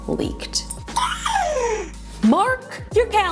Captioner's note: giggles excitedly